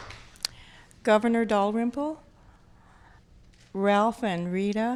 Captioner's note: applause